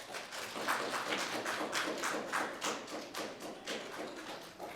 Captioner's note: audience applauding